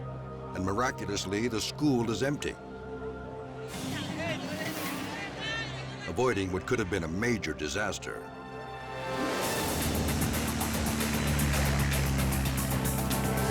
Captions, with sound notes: and miraculously, the school is empty, avoiding what could've been a major disaster. (engine grumbles)